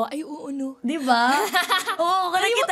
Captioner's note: laughs